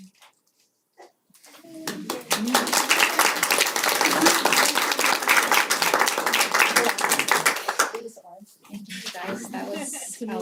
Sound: applause

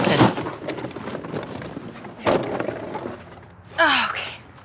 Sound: rummaging

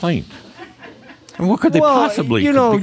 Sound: a few chuckles

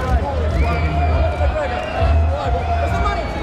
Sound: cheering

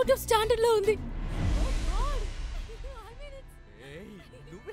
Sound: Tarini laughs

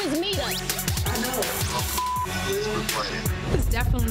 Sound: beep

